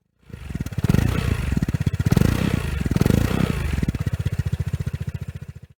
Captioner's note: engine Noise